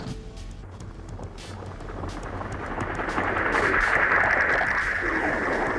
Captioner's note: helicopter whooshing